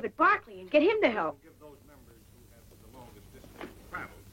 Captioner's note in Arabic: الشخص الذي يتحدث خارج الميكروفون